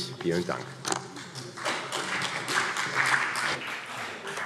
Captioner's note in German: Beifall CDU